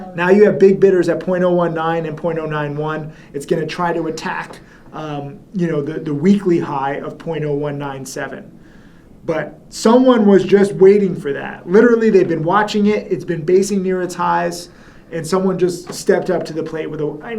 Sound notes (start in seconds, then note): none